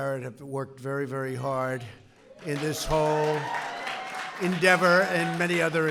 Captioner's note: applause